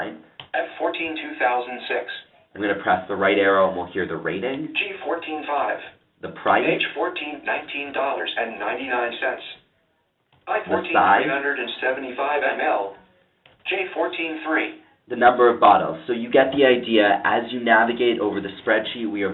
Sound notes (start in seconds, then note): 6.8 computer speaking; 10.8 computer speaking